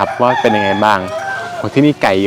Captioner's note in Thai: เสียงไก่ขัน